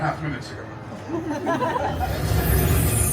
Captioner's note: guests chuckling